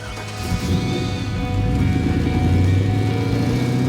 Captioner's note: engine growls